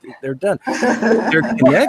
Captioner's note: participants laughing